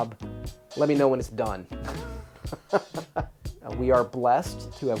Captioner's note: laughs